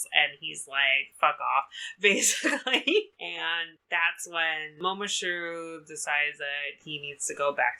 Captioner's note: laughs